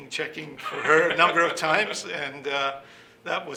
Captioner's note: laughing